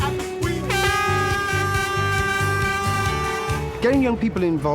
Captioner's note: air horn blows